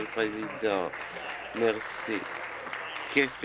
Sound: applause

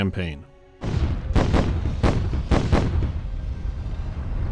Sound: chain of explosions

